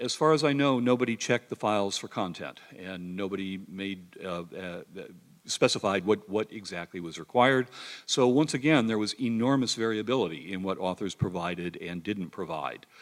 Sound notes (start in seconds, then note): none